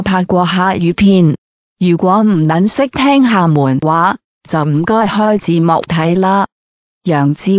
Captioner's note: Amoy dialect